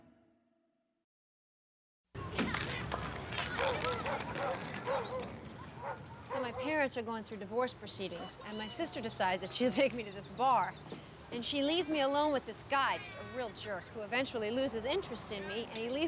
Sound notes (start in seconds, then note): 3.2 children chattering; 3.6 dog barking